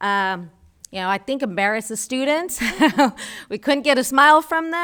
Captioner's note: laughs